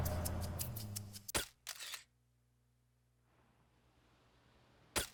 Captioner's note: camera snapping